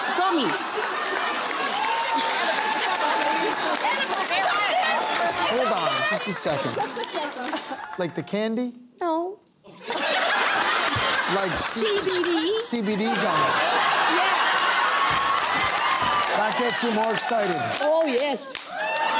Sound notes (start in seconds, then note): 1.9 cheering and applause; 9.7 laughing; 15.0 cheering and applause